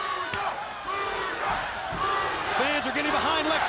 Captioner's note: fans chanting